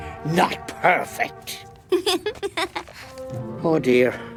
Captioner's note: giggles